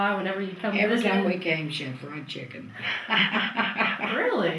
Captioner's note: laughs